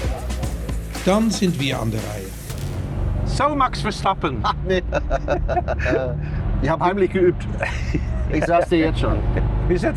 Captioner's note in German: gelächter